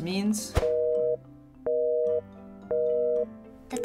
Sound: busy tone

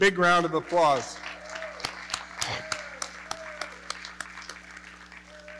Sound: audience cheering and clapping

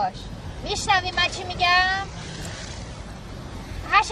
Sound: water splashing

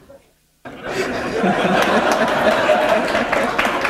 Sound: laughter; applause

